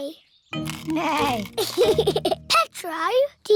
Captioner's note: neighs and giggles